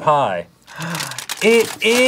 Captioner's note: amazed gasp